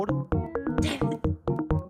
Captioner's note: quietly